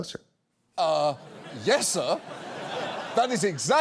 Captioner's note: audience laughs